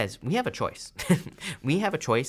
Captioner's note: laughs